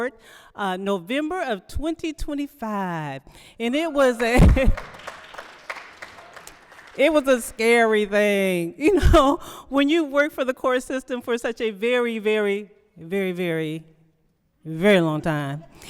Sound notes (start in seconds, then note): 6.7 applause